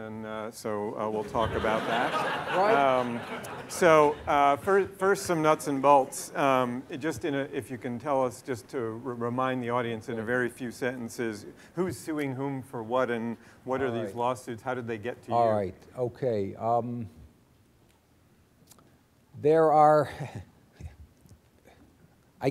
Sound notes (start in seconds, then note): 1.2 laughter